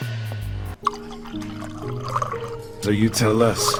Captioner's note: peaceful music; drink pours